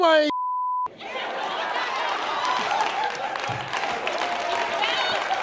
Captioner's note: beep; audience laughs